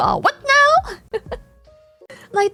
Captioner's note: laughs